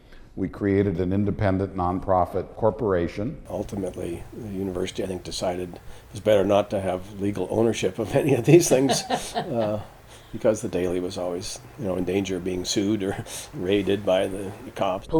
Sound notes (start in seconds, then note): 8.0 laughter